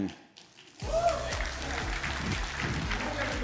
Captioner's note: cheers and applause